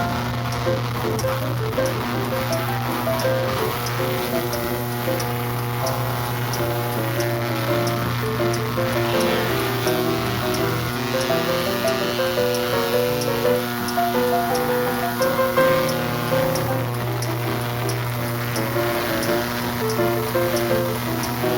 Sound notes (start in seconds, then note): 7.1 flasher continue ticking; 7.1 ultra sonic noise